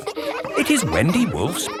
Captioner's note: kids laughing